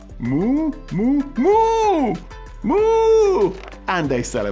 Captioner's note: imitates cow mooing